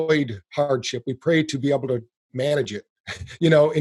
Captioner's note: chuckles